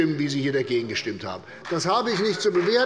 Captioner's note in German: Beifall bei der CDU und dem BÜNDNIS 90/DIE GRÜNEN